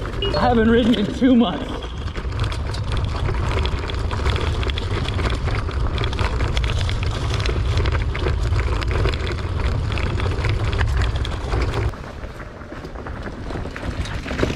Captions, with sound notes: (beeps) I haven't ridden in two months. (bike clattering)